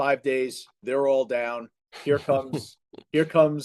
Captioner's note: laughs